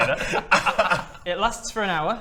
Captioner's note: laughs